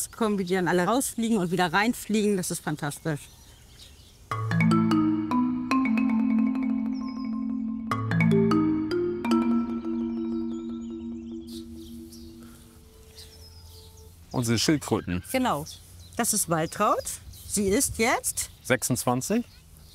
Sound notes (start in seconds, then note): 5.0 curious music; 12.2 birds chirping